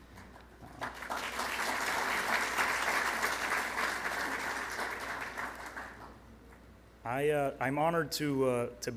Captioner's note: applause